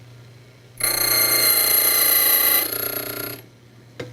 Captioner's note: drilling sound